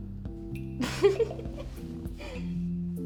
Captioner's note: laughs